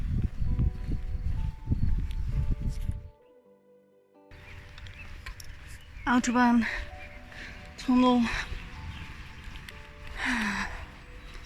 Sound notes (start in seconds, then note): 4.3 traffic; 10.2 sigh